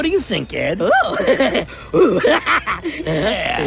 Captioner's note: crazy laughter